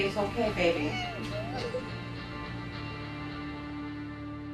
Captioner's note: cries